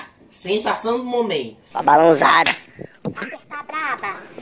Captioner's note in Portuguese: som do tapa